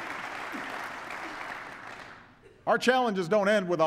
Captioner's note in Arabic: تصفيق